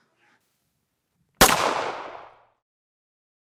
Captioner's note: sound of a gunshot